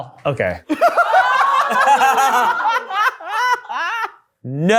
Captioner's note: everyone laughing